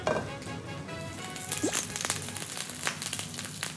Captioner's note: Minyak memercik